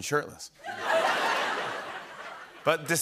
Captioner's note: laughter